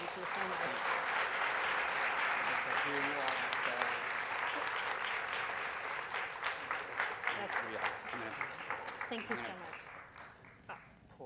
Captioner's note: applause